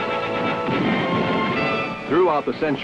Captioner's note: gun shots